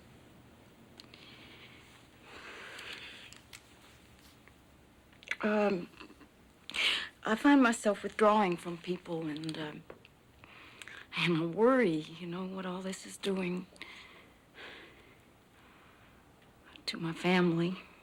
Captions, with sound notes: [SIGHS] Um... I find myself withdrawing from people and, uh... and worry, you know what all this is doing, to my family.